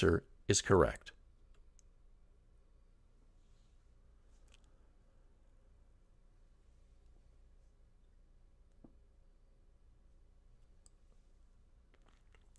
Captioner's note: pause